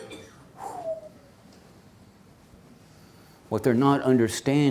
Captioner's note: deep exhale